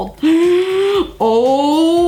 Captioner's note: breath gasping